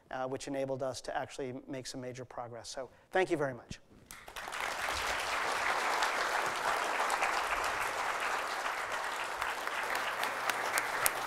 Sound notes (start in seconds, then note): 4.1 applause